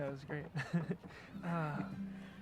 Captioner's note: risas